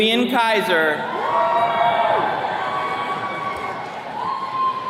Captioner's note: attendees cheering